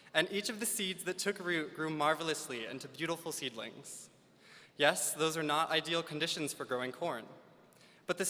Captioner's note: none